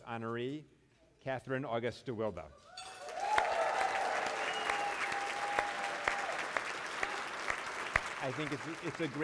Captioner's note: applause